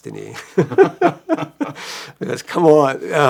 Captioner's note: laughing